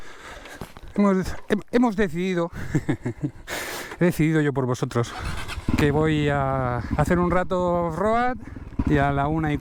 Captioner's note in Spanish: risas